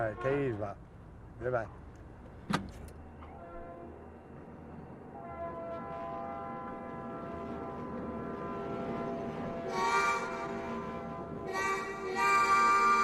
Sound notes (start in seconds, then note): 3.1 train horn blares